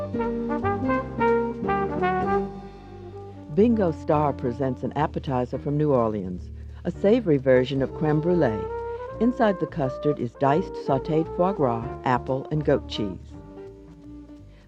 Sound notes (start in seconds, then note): 0.1 snazzy jazz music; 3.6 voiceover